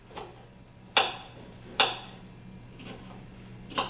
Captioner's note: chopping sounds